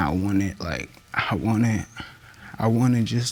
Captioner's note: voice breaks